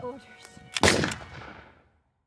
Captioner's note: gunshot